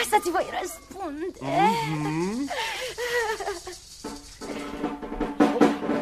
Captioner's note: laughter